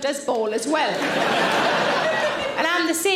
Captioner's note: audience laughing